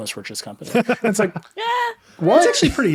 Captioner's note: laughing